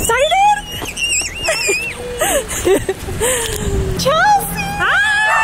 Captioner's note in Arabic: فتاة تصرخ